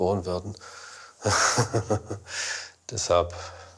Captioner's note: he laughs